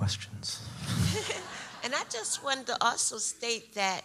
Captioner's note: audience laughs